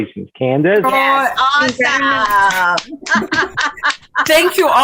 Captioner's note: laughing